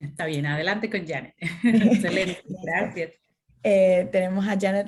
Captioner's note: laughter